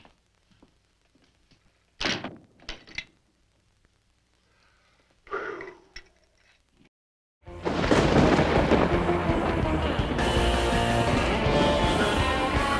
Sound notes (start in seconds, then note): 5.2 sigh; 7.5 thunder crashing; 8.9 upbeat rock music